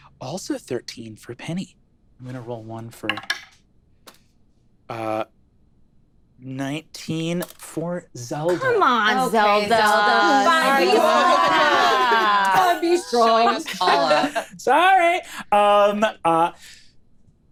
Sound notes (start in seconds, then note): 10.3 overlapping chatter